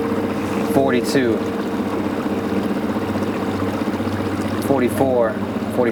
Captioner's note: water splashing; motor puttering